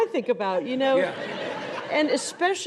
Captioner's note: audience laughs